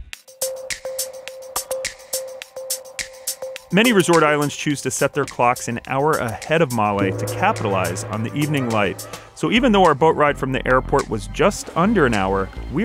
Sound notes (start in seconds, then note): 0.2 gentle music; 6.9 gongs